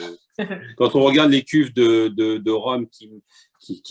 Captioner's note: laughter